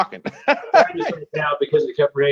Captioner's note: laughs